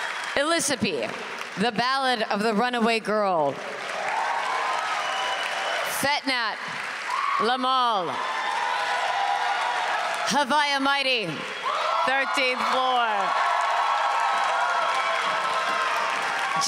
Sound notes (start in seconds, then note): 0.1 cheers and Applause; 4.1 applause; 13.7 applause